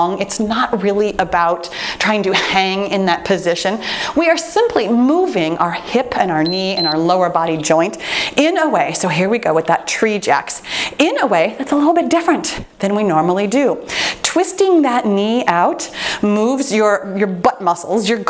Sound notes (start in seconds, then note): 6.4 timer beeps